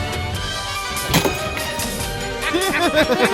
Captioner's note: spits; laugh